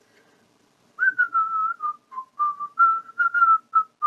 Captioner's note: whistling